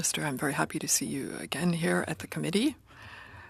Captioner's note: speaking French